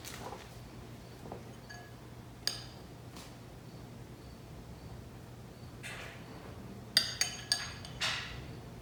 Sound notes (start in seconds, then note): 7.0 metal spoon clinks on glass